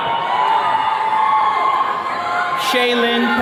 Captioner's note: attendees cheering